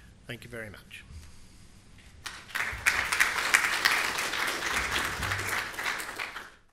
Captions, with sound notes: Thank you very much. [APPLAUSE]